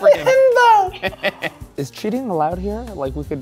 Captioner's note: laughs